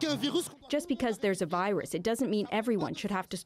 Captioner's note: speaking French